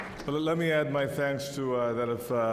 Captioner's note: applause